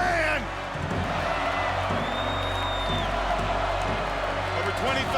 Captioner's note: crowd cheering